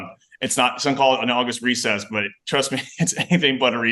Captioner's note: chuckles